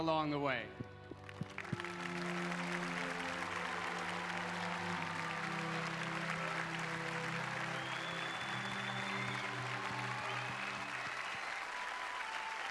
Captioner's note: applause